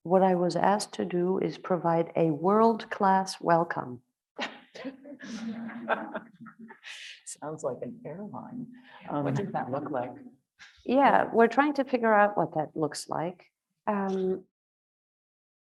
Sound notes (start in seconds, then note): 4.7 everyone chuckling